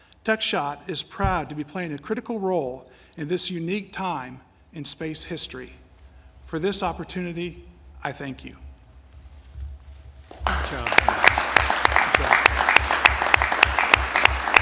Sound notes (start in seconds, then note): 8.6 applause